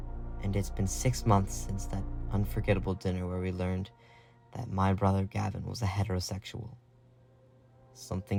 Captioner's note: voiceover